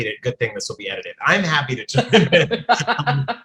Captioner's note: laughs; laughing